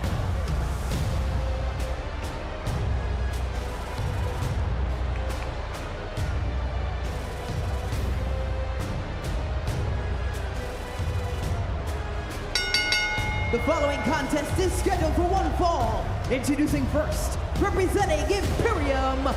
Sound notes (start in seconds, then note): 12.5 bell rings